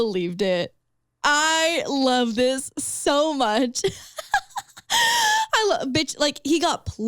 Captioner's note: laughs